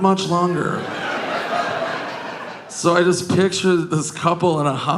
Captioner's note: audience laughing